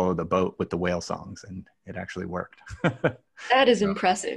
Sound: laughs

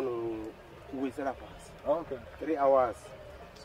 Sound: speaking native language

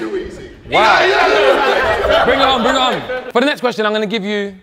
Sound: group laughs

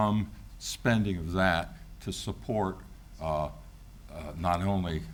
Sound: none

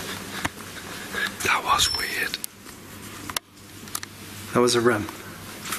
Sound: Rem beeps

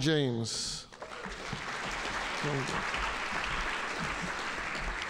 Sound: audience applauding

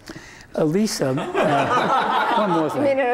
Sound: laughter

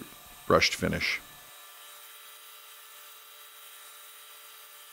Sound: Titan buzzing

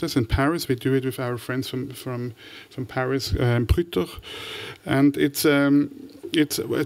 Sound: french

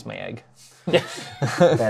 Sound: laughter

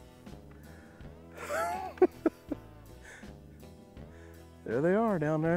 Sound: laughs

